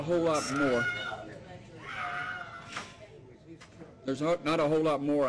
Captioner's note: yelling